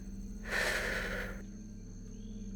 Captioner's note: sigh